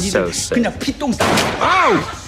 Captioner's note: Dr. Kim speaking in Korean; bullet shots